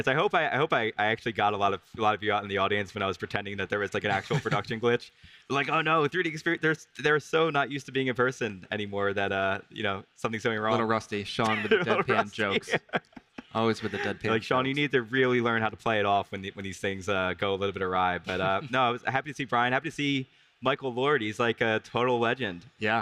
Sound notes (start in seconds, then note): 4.0 laughs; 11.3 laughs